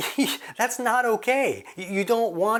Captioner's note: laughs